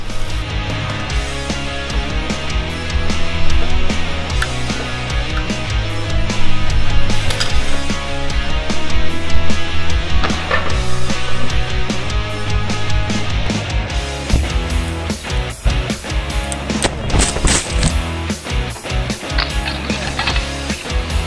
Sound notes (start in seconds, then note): 0.2 upbeat rock music; 7.2 cable snapping